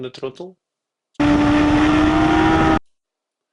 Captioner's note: tires screeching